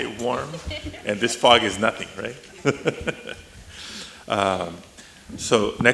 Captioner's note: chuckles